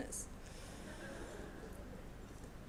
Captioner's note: laughter